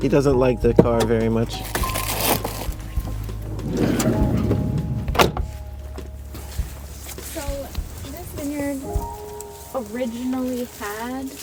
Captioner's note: sounds of agreeance and unbuckling seat belts; sounds of walking on soil